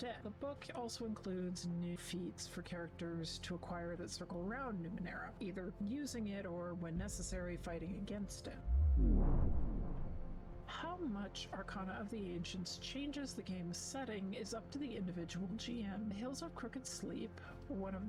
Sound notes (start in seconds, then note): 8.6 vwoom!